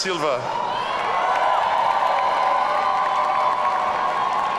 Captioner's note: audience cheering